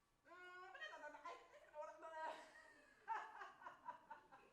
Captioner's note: speaks Arabic